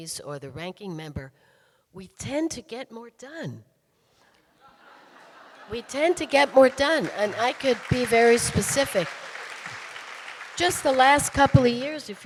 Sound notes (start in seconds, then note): 4.6 audience laughing; 9.4 audience applauding